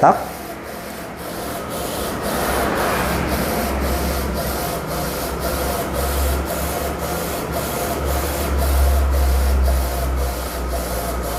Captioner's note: printer machine noise